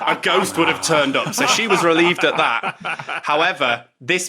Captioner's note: others laughing